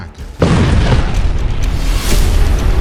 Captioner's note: nuclear blast; suspenseful music